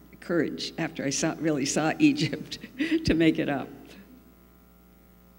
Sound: laughs

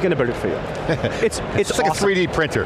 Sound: chuckling

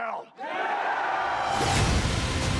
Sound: cheering

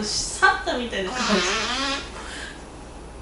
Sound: fart><

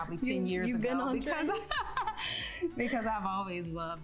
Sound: both laughing

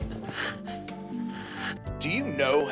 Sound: panting

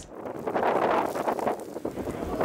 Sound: wind howling

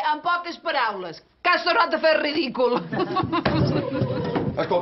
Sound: they laugh

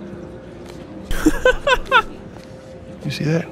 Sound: laughs

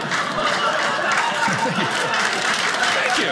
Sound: audience applauding

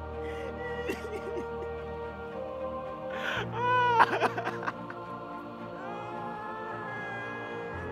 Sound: crying

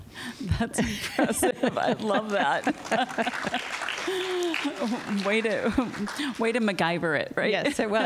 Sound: laughter; applause

